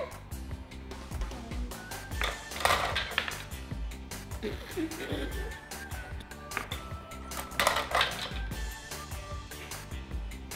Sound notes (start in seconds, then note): 4.3 laughs